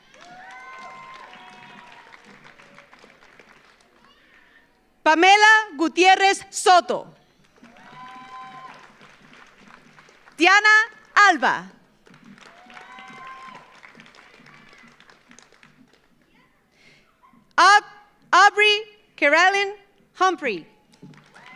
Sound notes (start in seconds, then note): 0.0 audience cheers; 0.0 audience applauds; 7.3 audience applauds; 7.5 audience cheers; 11.7 audience applauds; 20.9 audience applauds; 21.1 audience cheers